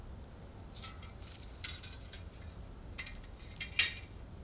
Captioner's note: metal clinking